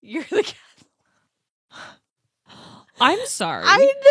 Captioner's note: laughs